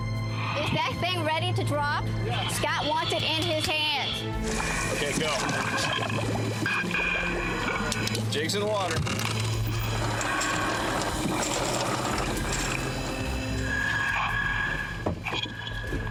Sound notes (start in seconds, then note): 6.1 water bubbling; 12.7 tense music playing